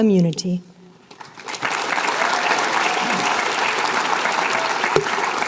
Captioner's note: applause